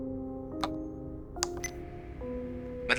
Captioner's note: drowsy music; recorder beep